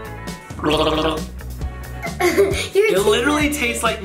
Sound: gargling

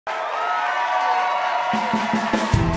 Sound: cheering

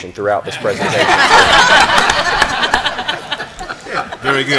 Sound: laughter

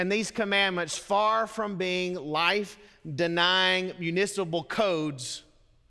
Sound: none

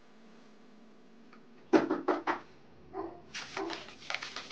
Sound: dog barking; fervent knocking

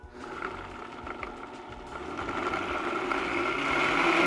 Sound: blender whirring

